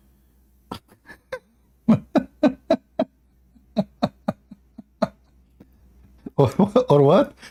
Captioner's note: Ketawa